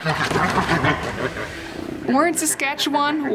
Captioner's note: bears fighting